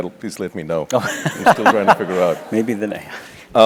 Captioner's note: laugh